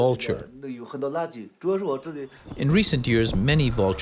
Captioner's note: mandarin